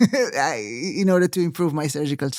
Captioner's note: laughing